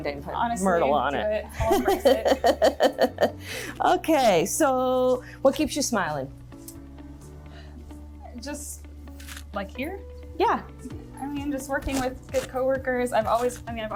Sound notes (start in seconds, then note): 1.6 laughs